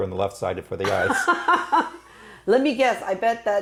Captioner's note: laughing